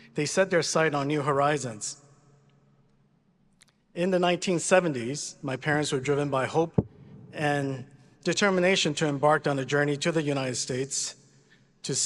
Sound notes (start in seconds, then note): none